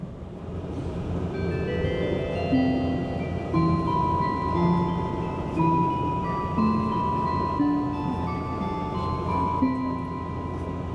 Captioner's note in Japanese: ワイドビューチャイム♪が鳴っています